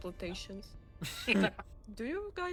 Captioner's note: laughs